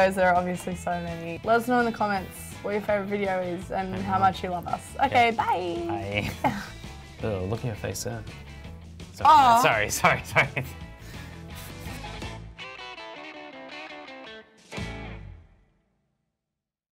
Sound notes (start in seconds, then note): 6.0 laugh; 12.8 cheerful music